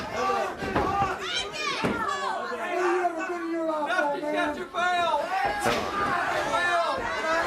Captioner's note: crowd chatter